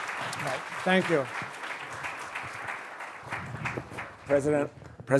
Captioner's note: applause